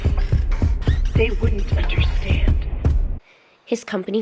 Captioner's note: M1, using Fiona's voice